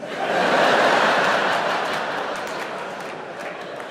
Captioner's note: audience laughing